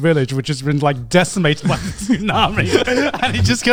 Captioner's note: chuckling